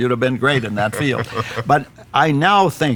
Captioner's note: laughs